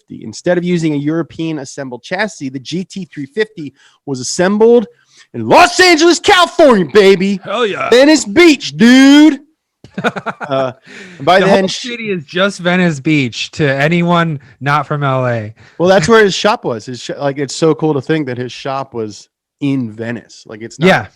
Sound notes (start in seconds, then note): 9.8 laughs